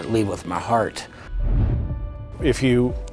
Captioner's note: air whooshes